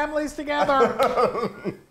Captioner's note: laughing